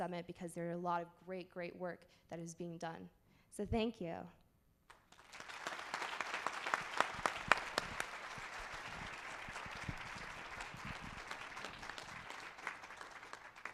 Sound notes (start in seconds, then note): 4.9 applause